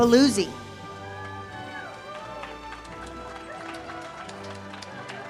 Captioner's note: audience cheers